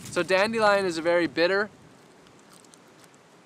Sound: munches on the plant

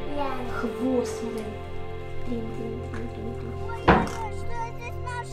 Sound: children conversing in Ukrainian

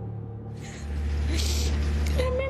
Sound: sniffles

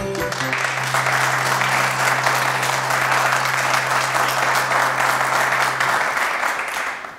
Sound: clapping

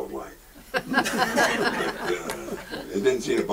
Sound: audience laughs

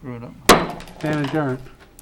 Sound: gavel bangs

